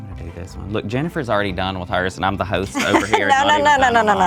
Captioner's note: laughs